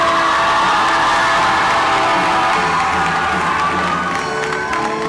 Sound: wild cheering, screams and applause

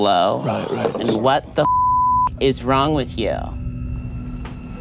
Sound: beep

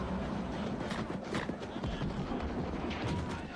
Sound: booming

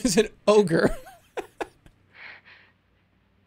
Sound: laughs

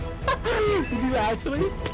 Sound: laughing

